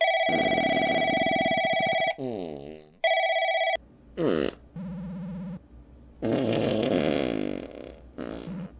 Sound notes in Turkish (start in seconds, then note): 2.1 Devam eden osuruk sesleri